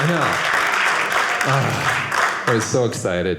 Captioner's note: audience cheering